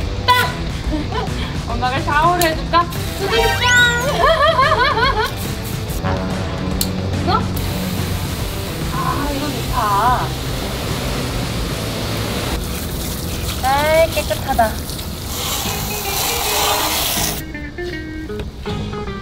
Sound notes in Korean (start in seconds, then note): 0.3 웃음; 4.0 웃음